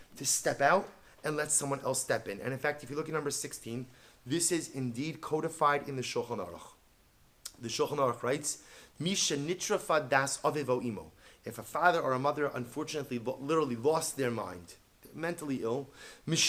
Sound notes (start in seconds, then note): 9.1 Hebrew